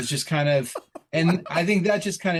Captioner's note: chuckle